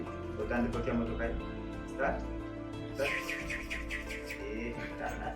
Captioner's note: speaking foreign language